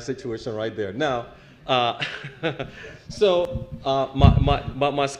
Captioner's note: laugh